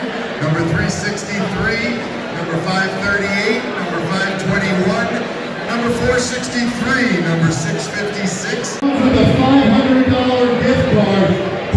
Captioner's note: auctioneer speaking